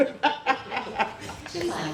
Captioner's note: laughter